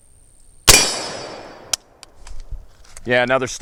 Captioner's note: gunshot